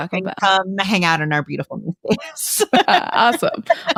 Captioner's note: laughs